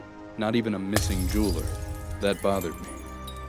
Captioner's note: glass shattering